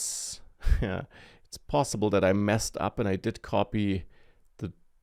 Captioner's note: laughs